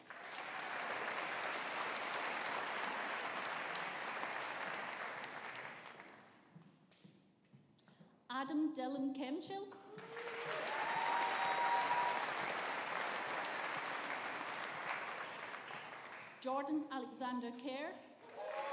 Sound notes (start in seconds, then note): 0.0 audience applauding; 9.9 audience applauding